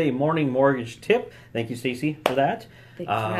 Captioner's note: claps hands